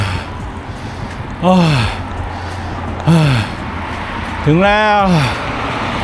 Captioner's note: sighs